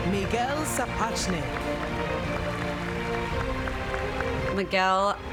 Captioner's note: applause